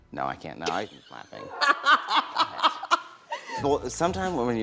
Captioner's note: laughter